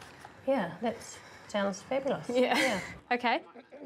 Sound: chuckles

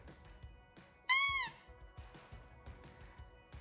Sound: squeaker noise

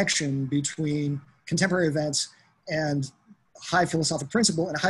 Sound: none

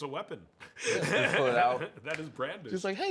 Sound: laughs

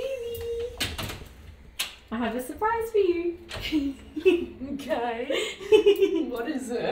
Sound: laughing

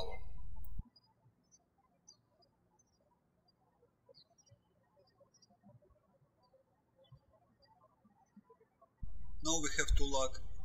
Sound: birds chirping

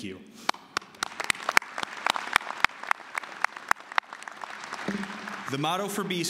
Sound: applause

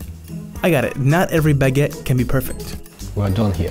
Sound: voiceover

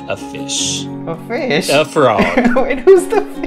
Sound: laughter

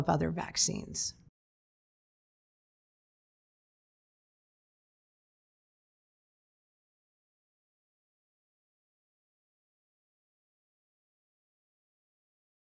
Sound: silence

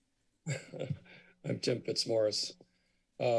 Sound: giggles

